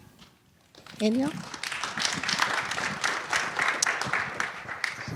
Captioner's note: applause